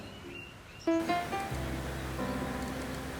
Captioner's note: gentle Rain Sound